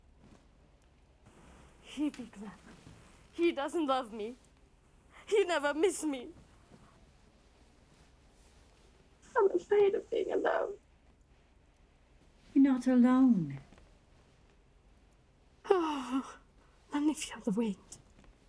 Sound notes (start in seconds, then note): none